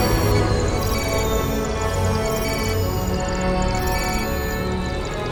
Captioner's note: system beeping